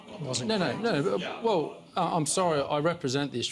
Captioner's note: audience murmurs